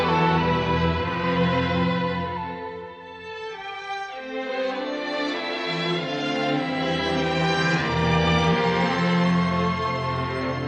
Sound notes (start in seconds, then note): none